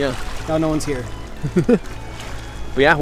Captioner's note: chuckles